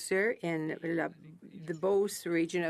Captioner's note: speaking French